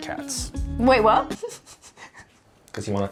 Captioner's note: chuckling